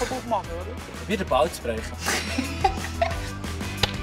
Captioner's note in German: lacht